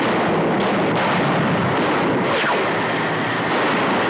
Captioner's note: gunshots continuing